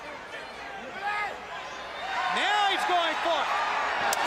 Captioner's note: crowd chatter